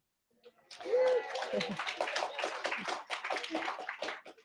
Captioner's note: cheering, applause